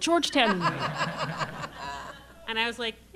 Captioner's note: laughter